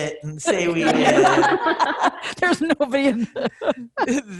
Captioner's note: laughing